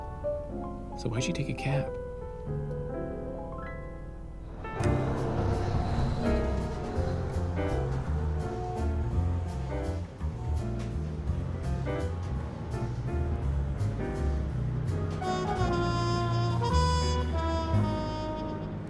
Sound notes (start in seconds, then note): 4.1 car horns honking